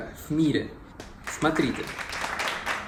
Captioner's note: applause